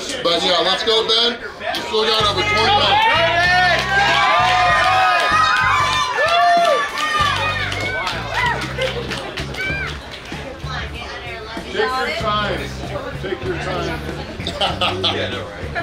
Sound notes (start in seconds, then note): 5.3 crowd cheering; 14.2 laughing; 15.6 rock music